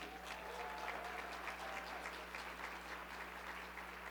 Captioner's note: audience clapping